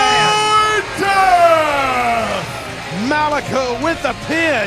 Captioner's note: announcer continues announcing over PA